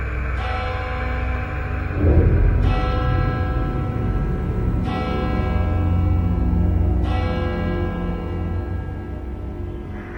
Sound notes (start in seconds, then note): 0.3 church bell tolls